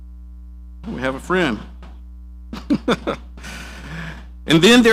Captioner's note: laughs